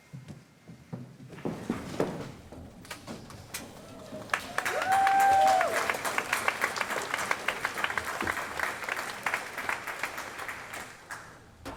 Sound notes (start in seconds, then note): 3.8 applause